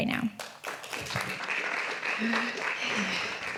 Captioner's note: audience claps